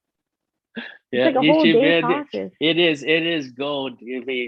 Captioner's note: laughs